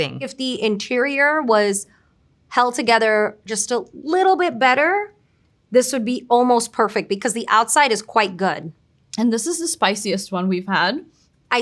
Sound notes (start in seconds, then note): none